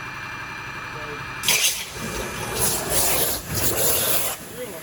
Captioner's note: drill whirs